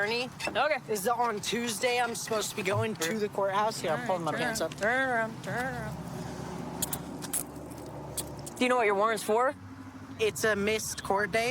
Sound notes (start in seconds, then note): 6.8 handcuffs clicking